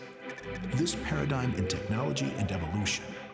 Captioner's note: computer whistling